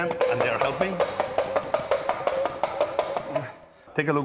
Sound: rattling

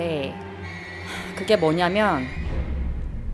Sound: sighs

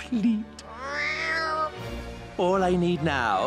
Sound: Lazlo meows

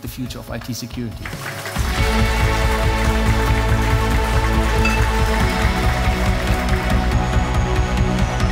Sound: applause

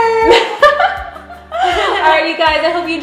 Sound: laughs

